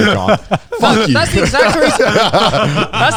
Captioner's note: laughing